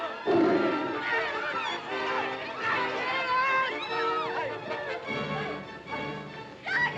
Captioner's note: suspenseful music; tiger growling; shouting & commotion; suspenseful music